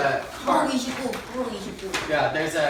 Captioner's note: boy speaking Korean